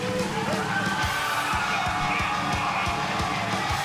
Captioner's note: cheers and applause